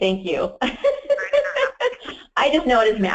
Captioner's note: laughs